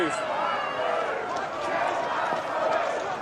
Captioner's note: people shouting